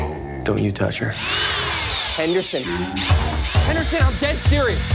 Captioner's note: drill whirs